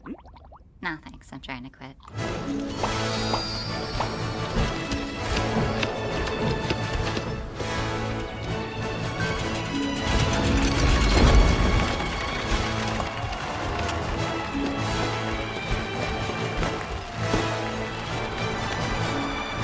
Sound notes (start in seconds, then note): 2.3 majestic music plays; 12.1 cheers and applause